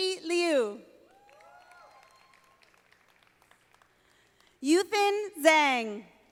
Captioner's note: audience applauding